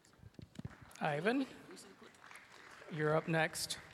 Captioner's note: sparse applause